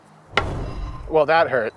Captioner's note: background mystical ball chiming